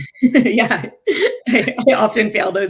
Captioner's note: both laughing